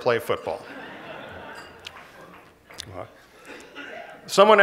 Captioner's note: laughter